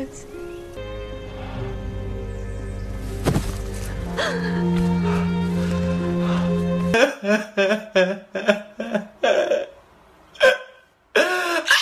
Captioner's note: laughs